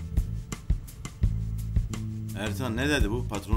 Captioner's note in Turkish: none